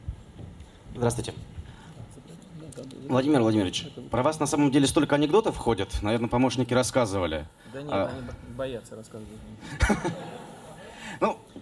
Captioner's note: laughter